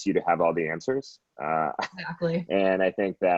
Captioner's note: laughs